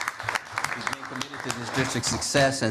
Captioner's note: applause